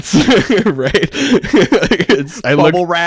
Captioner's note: laughs